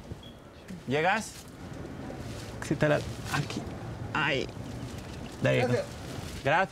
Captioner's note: speaking in Spanish